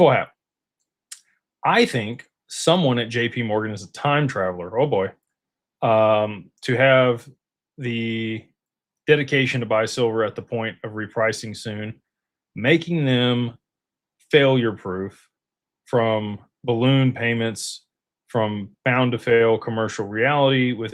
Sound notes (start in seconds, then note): none